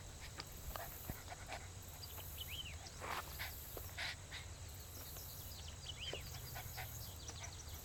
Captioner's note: birds chirping; leaves rustling; birds chirping; dog panting